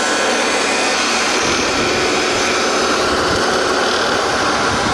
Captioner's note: wind rustling